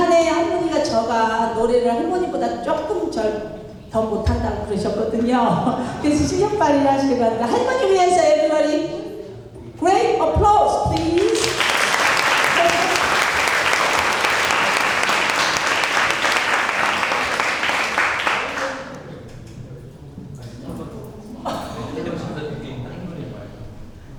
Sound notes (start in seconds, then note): 0.2 speaking in foreign language; 10.9 applause